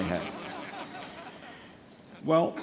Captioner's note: audience laughs